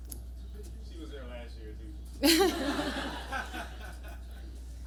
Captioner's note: laughter